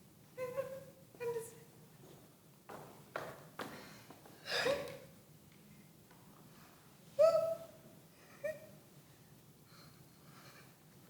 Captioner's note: crying